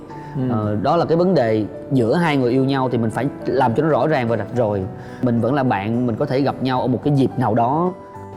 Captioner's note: none